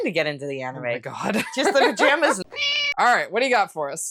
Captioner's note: meow